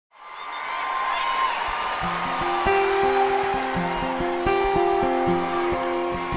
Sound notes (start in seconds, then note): 0.1 audience cheering; 2.0 gentle folk guitar music